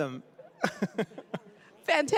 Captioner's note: chuckling